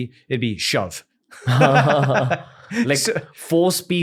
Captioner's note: laughter